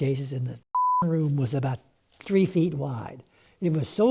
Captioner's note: beep